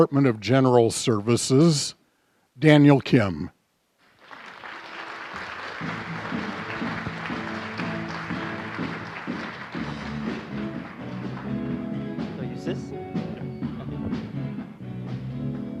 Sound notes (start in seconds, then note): 4.0 applause; 7.1 applause and music